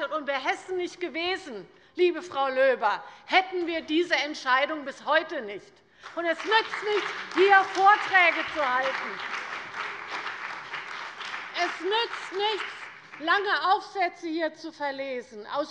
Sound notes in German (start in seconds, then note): 6.0 Beifall bei der CDU und dem BÜNDNIS 90/DIE GRÜNEN